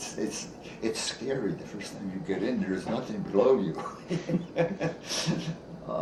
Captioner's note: chuckles